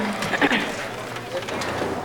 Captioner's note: clears throat